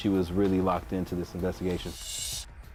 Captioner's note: whooshing